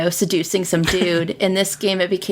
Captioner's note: laughs